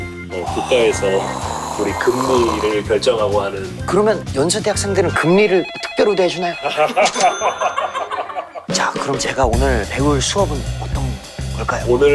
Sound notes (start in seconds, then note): 6.6 the Gold-toothed laugh of a Chairman